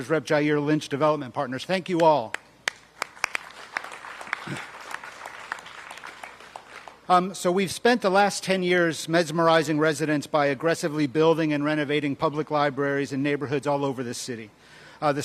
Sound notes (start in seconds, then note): 2.6 applause